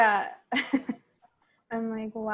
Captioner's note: chuckles